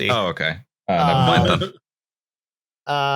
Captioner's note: laughter